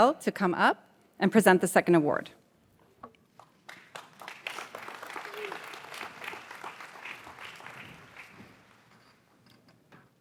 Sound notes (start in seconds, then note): 3.4 audience applauds